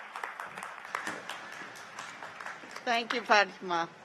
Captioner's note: cheers and applause